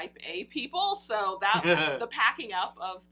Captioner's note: laughs